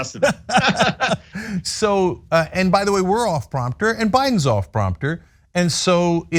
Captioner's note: laugh